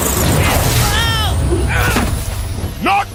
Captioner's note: explosion